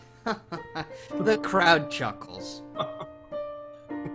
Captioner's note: laughs